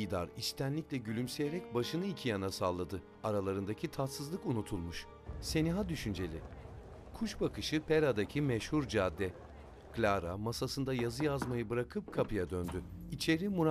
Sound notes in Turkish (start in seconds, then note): 0.1 Müzik - Gerilim; 7.2 Sokak ortam sesi; 11.0 Kapı vurulma sesi; 12.1 Kapı açılma sesi